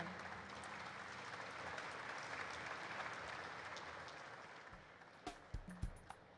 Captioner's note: applause erupts; upbeat jazz music